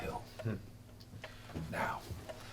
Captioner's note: scoffing